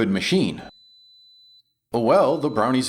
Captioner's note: beep Beep